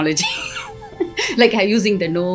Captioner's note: laughs